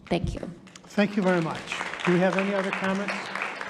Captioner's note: audience applauding